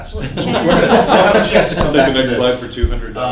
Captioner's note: class laughing